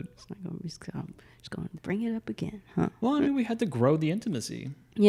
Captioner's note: none